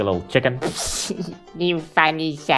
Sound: laughing

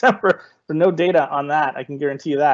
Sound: laughing

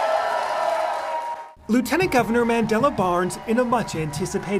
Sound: applause

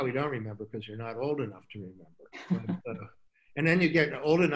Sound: laughs

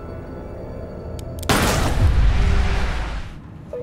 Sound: gunshot

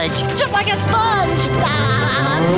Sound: laughing

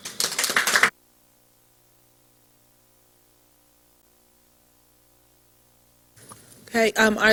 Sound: silence

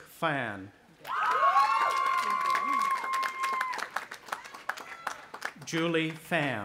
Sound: audience applauding and cheering

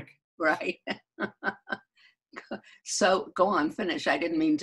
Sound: laughing

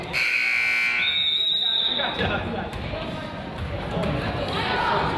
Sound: buzzer honks; whistle blows; crowd chatters

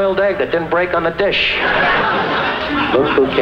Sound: laughing

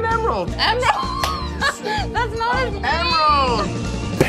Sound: laughs

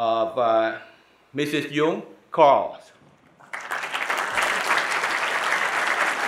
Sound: audience applauding

